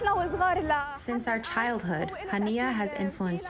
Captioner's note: through translator